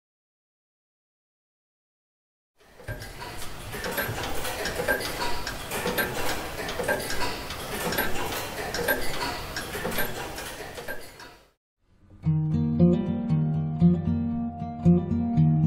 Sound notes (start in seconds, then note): 2.8 many clocks ticking